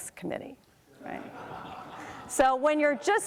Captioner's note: crowd laughs